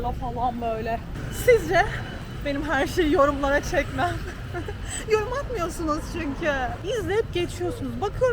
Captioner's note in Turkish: kahkaha